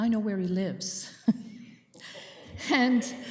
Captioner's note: chuckling